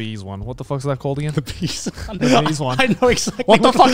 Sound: everyone laughs

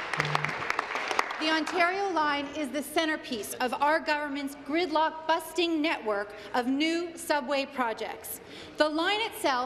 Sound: applause

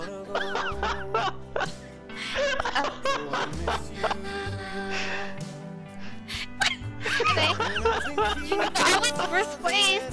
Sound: laughing

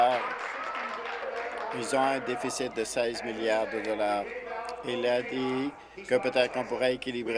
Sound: applause

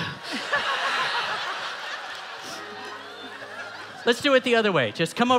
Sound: audience laughing

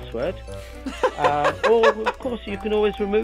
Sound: laughs

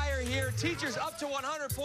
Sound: cheers and applause

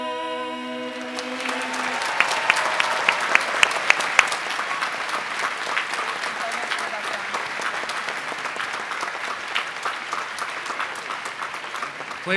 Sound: applause

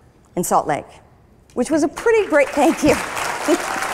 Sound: applause

